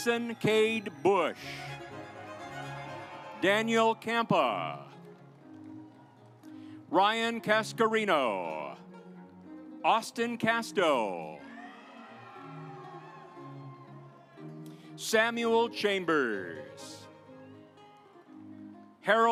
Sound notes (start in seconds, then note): 2.1 audience applauds; 11.4 audience applauds